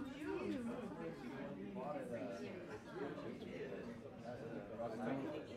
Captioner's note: low chatter continues